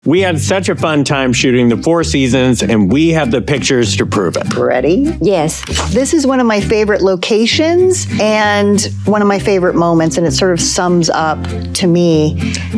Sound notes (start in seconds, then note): 5.6 camera snapping